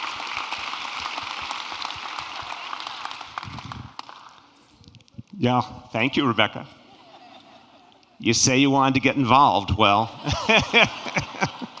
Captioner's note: applause